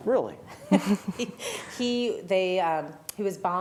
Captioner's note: laughter